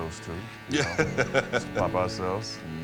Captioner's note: laugh